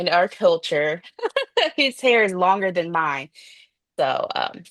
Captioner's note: laughs